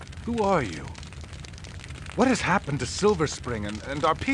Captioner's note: none